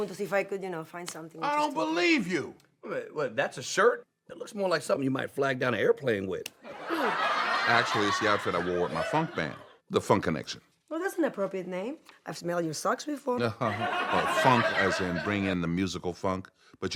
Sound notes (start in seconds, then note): 6.7 audience laughing; 13.5 audience laughs